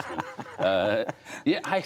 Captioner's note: laughter